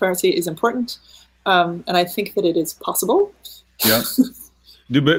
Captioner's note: laughing